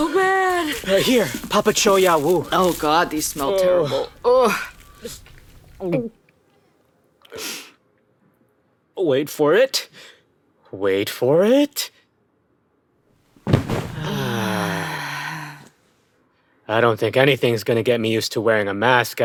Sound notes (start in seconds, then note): 4.5 sound of swallowing; 13.9 they both sigh in relief